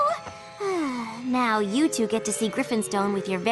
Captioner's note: sigh